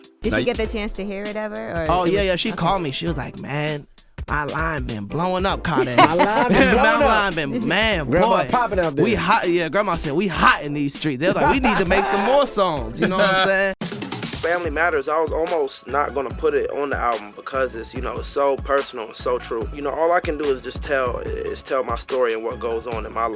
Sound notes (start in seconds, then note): 5.6 laughs; 13.8 laughs